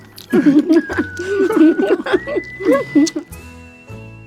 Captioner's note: both laughing